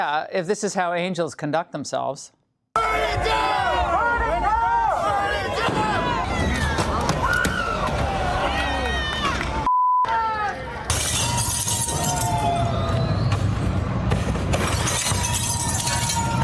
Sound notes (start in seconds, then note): 9.1 shouting; 10.3 shouting burn it down; 12.5 cheers; 12.5 shouting burn it down; 14.5 breaking glass; 15.0 cheers